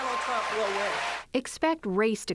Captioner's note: cheering and applause